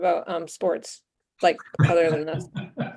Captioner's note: laughs